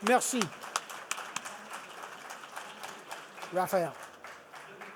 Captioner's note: participants applauding